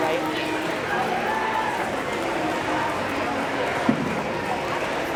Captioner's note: applause